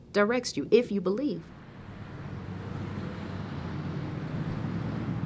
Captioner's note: car engine revving